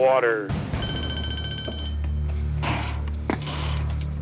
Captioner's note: phone ringing